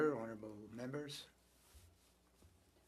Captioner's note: speaking french